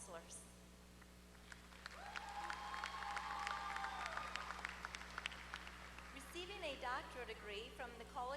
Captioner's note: applause